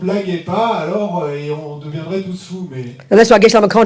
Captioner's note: speaking in French